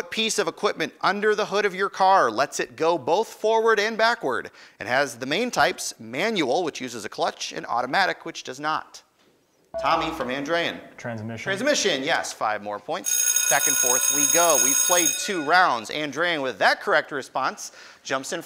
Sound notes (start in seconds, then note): 9.7 ding; 13.1 ringing